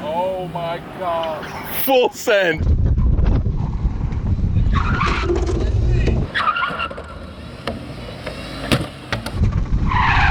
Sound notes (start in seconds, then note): 6.7 tires screeching